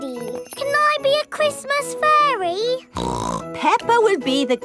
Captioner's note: snorts